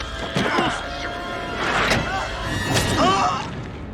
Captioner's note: door shuts; Randy grunts